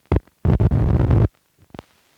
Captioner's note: Static